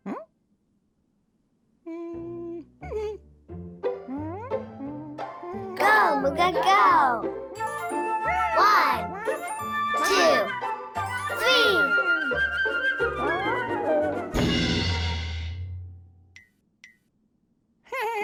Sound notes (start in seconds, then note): 2.7 pensive music; 7.8 Mooga vocalizing; 15.2 Mooga crashes